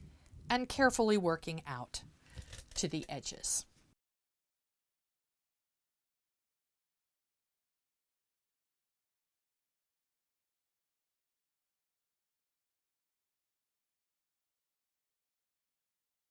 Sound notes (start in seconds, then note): 3.9 no Sound Present